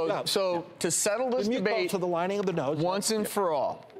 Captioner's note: doctors chatting